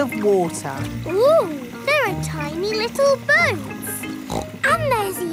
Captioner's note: snorts